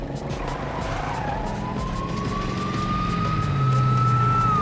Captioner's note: tires screeching, siren blaring